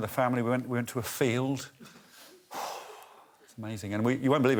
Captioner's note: sighs